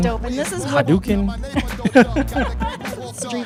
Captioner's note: laughs